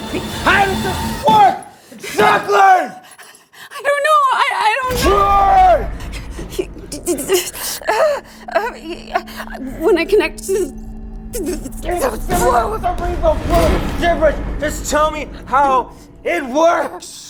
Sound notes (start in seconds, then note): 11.2 stammering